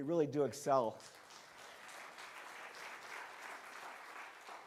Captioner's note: crowd clapping